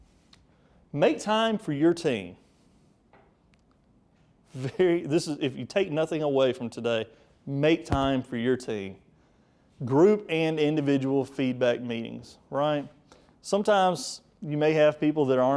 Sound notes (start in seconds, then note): 4.6 speaker chuckles